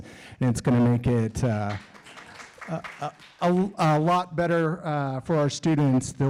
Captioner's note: audience claps